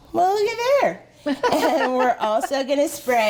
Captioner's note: laughing